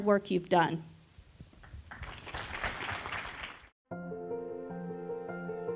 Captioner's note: applause